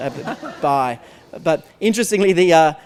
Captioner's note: laughter